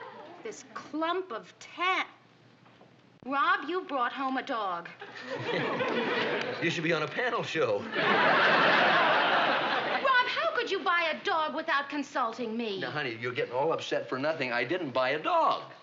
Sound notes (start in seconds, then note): 5.0 chuckles